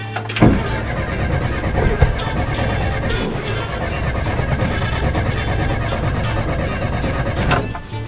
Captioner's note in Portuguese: ignição engasgando